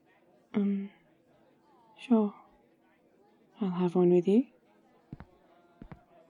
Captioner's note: footsteps